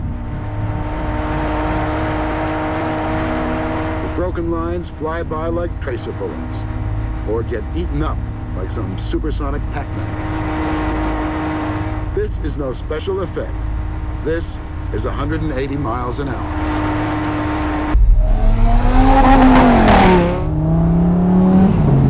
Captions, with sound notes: (engine running) - [Voiceover] The broken lines fly by like tracer bullets, or get eaten up by some supersonic Pac-Man. This is no special effect. This is 180 miles an hour. (engines revving)